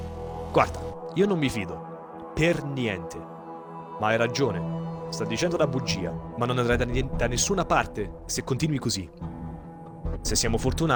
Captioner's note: renzo speaks italian